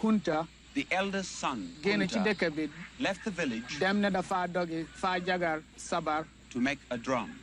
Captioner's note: foreign language; foreign language